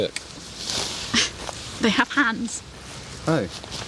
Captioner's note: scoffs